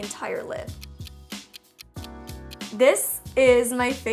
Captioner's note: clock ticking